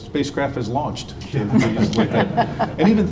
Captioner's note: all laughing